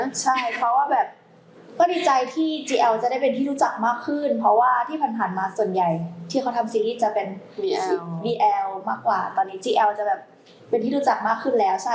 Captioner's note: continuing the answer in Thai